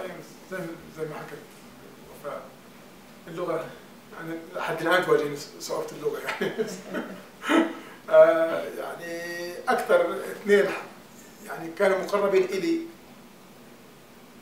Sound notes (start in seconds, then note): 6.2 laughs